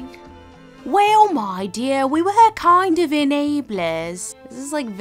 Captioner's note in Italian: imitando MRS. BRIC; voce fuori campo